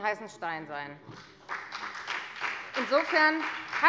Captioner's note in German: Beifall bei der FDP und der SPD